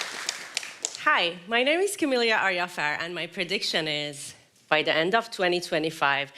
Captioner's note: applause